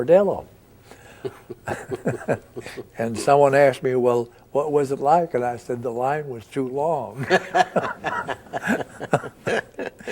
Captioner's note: both chuckle